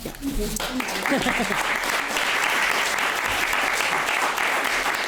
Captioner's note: audience applauding